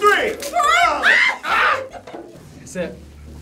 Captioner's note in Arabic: كلاهما يصرخ